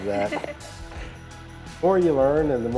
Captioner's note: chuckles